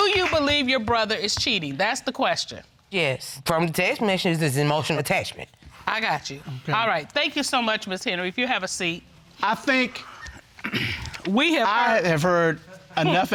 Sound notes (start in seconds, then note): 10.5 clears throat